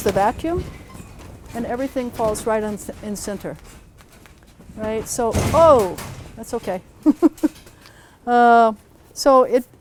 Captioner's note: door bangs